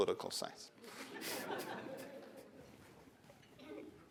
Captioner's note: laughter